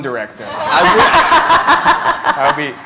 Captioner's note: laughter